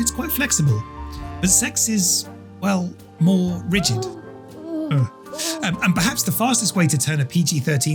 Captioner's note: character groaning